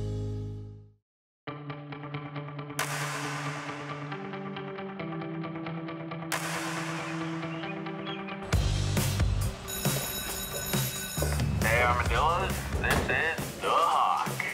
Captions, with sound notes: (upbeat music) (school bell ringing) - Hey Armadillos, this is The Hawk.